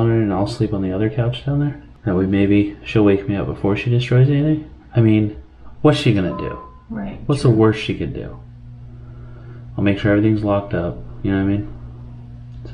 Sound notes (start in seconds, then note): none